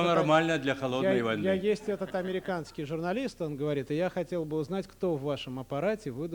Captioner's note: non-english speech; non-english speech